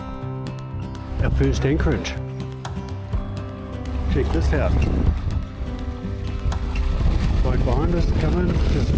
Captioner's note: waves lapping